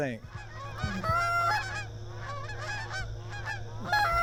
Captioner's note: geese squawk